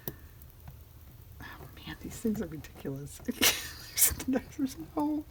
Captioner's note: laughs